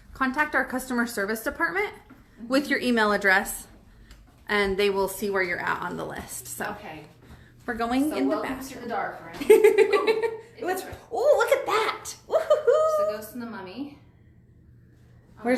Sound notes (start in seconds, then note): 9.5 laughs; 12.2 laughs